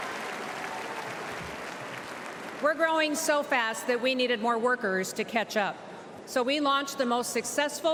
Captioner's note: applause